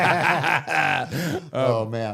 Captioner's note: both laughing